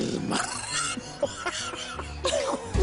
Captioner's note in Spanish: Risas